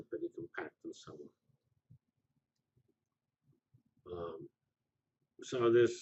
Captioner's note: pause